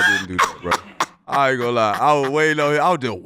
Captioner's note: laughing